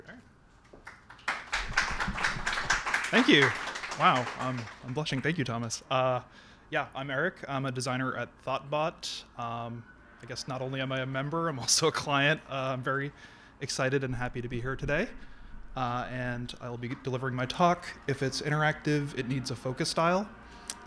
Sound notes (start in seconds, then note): 2.7 applause